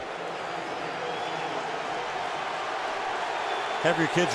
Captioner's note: crowd cheering